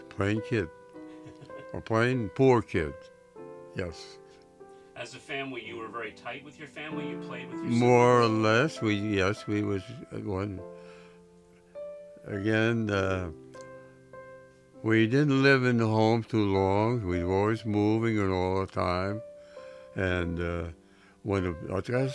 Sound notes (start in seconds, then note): 1.1 interviewer chuckles